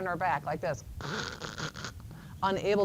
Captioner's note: makes choking sound